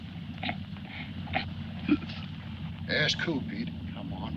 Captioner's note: Pete babbles